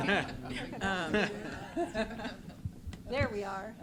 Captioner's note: chuckles